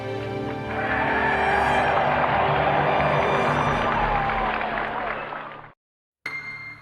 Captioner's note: dramatic spirited music; audience applauds; audience cheers